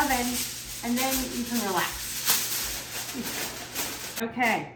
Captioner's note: tinfoil crunching